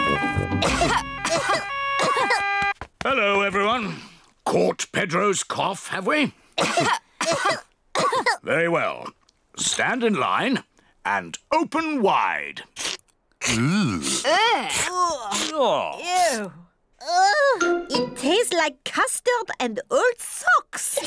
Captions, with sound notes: (ALL COUGH) Hello, everyone! Caught Pedro's cough, have we? (ALL COUGH) Very well, stand in line and open wide! -Ugh! -Ugh! -Ugh! -Ew! Ugh! It tastes like custard and old socks!